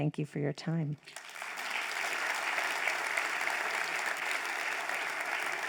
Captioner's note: crowd applauds